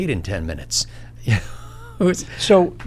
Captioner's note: laughs